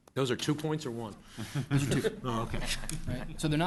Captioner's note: laughter